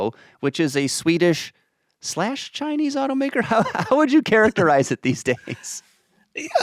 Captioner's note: chuckles